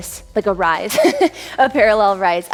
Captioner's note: laughs